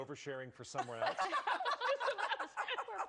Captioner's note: laughter